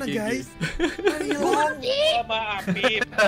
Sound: laugh

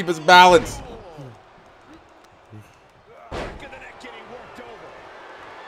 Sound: applause

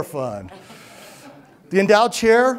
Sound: laughter

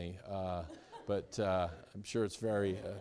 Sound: students laughing

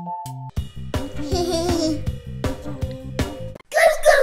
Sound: giggling

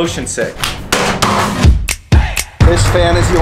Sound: snack bangs; upbeat dramatic music

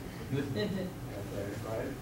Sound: audience giggling

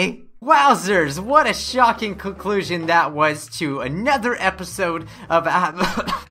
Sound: cough cough

